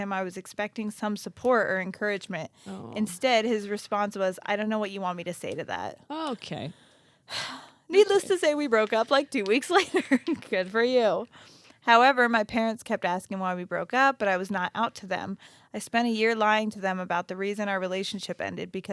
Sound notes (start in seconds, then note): 7.3 sighs